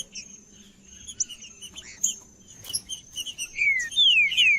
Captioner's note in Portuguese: trinca ferro cantando